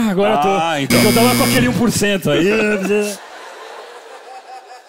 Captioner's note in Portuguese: campainha